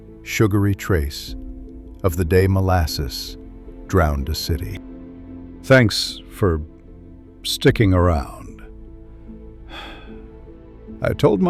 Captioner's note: sigh